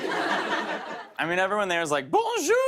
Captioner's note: laughter